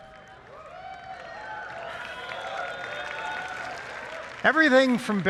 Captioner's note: applause